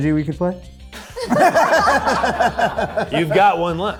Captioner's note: group laughs